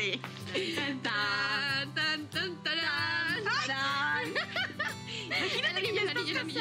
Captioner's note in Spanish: risas